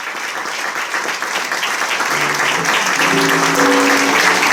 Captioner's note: applause